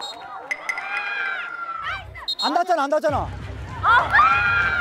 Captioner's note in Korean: 호루라기 소리